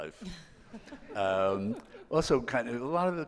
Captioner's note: laughing